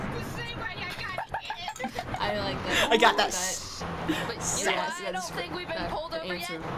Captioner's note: laughs